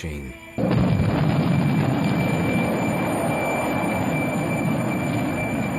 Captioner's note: rocket blasting off